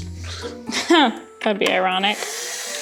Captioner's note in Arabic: يسخر